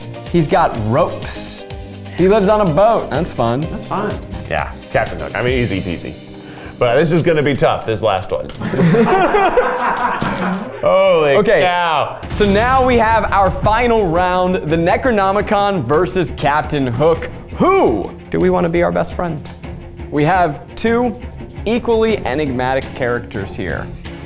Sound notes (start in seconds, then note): 8.5 and crew laugh